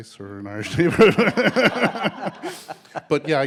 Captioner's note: all laughing